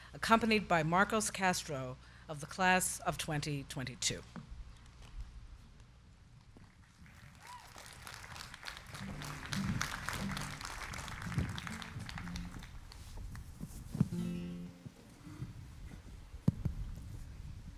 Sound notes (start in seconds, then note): 7.0 crowd cheering; 8.3 crowd clapping